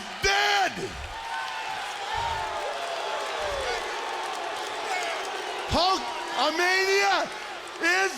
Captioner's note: crowd cheering